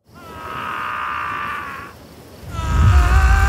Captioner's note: Screaming in phone; Screaming in background